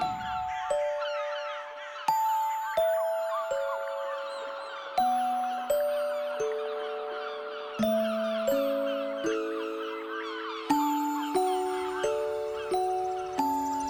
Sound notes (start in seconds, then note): 3.8 aves graznando